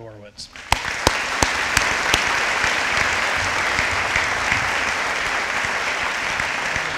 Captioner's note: audience applauding